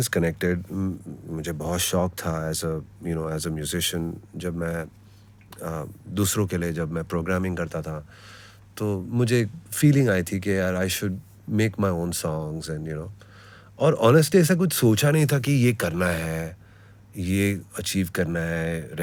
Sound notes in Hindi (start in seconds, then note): none